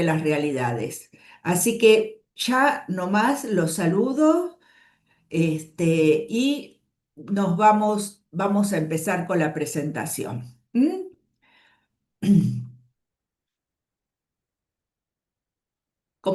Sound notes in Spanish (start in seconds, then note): 12.2 carraspeo